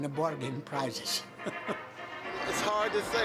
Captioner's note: laughing